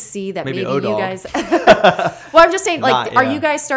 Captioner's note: laughter